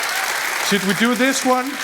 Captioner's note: audience applauding